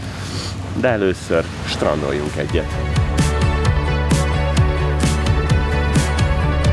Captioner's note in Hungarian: horkantás